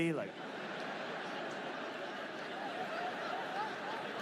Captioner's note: audience laughs